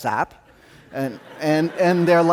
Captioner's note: audience laughing